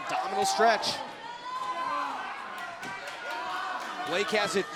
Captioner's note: crowd cheering